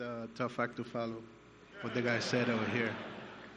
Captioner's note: laughter